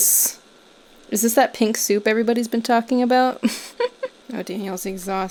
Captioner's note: chuckles